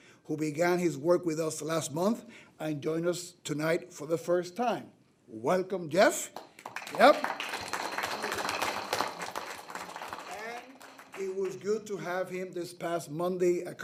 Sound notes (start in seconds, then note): 6.3 trustees applaud